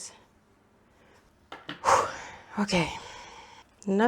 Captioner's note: exhale of resolve